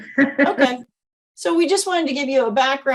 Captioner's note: chuckles